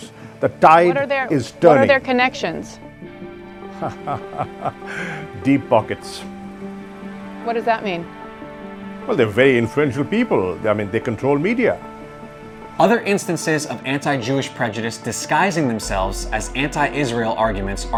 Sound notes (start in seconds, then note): 3.6 scoffs